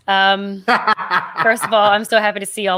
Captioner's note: laughing